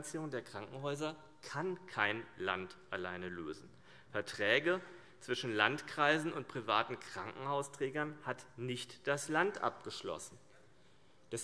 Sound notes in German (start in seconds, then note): none